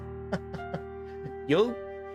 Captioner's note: laughs